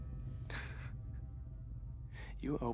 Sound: Rylan chuckles

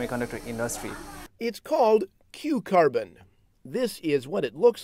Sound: voiceover

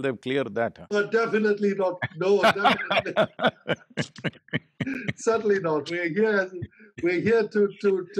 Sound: both laugh

